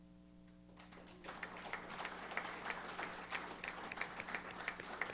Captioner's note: applause